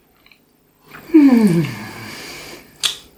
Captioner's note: happy sigh